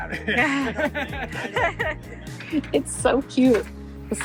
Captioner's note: everyone laughs